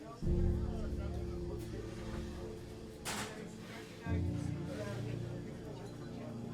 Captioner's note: people chattering